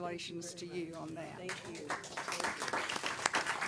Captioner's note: applause